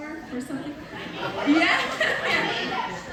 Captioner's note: laughter